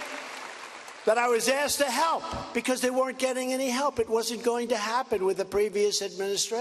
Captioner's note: cheers and applause